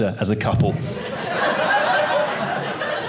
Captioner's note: audience laughing